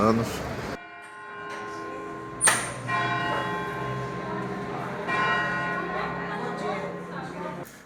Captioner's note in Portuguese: Sino tocando ao fundo